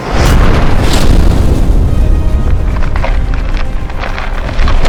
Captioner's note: loud boom